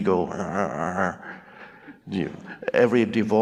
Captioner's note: Eckhart groans